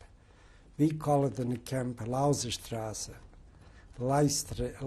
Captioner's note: german